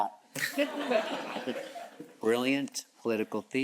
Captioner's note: blabbering; audience chuckles